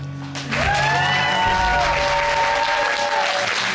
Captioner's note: audience cheers and applauds